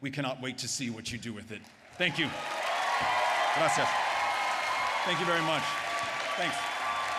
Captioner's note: applause